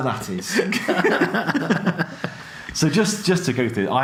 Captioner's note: both laugh